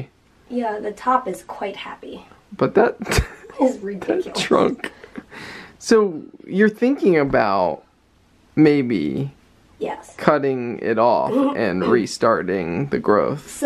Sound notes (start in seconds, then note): 3.0 both chuckling